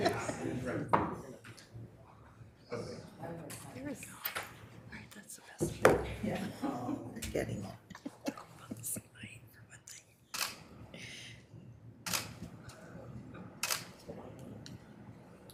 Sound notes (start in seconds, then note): 7.9 members laughs; 10.3 camera clicking